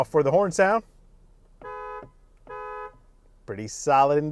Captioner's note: high pitched horn